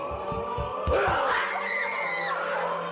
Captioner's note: screams